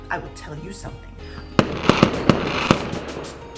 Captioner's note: more firework sounds